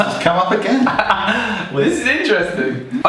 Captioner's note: laughing